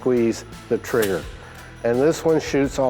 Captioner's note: trigger clicks